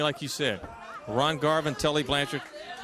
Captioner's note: crowd chatter